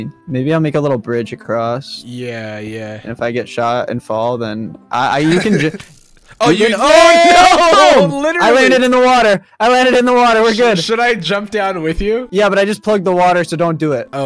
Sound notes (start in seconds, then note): 5.2 laughs; 6.6 screams